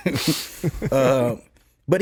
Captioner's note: laughs